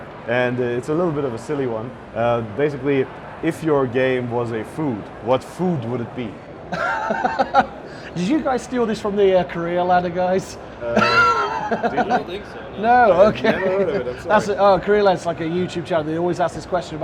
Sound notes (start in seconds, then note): 6.7 laughs